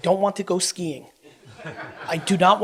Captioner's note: audience laughs